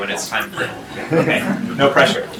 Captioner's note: laughter